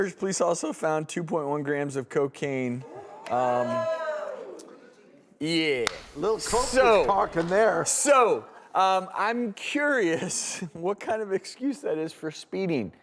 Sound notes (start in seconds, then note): 2.8 audience moans